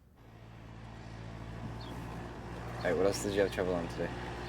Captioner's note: airplane rumbles